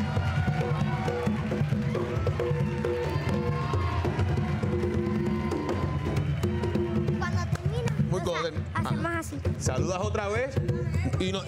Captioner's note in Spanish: aplausos